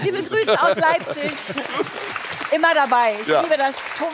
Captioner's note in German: Applaus